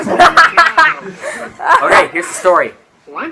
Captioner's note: laughter